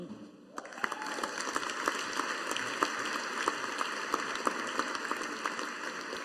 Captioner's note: audience applauding